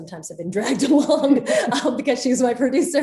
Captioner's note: Soledad and Rose laughing